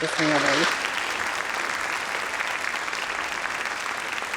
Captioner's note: audience clapping